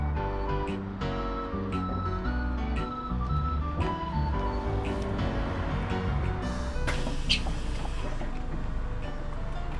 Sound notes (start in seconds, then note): 0.0 low beat music; 7.0 bus door makes sound opening; 8.3 low beat music